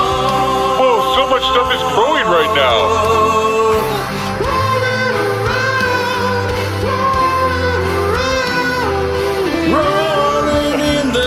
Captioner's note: falsetto